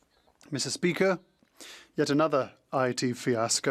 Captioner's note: speaking French